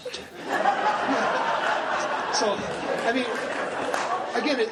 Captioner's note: laughing